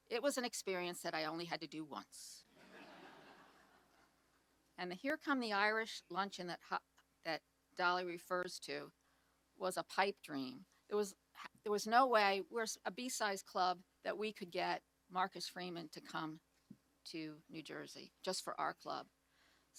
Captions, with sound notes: It was an experience that I only had to do once. (audience laughs) And the Here Come the Irish luncheon that Dolly refers to was a pipe dream. There was no wa—we're a B-sized club— that we could get Marcus Freeman to come to New Jersey just for our club.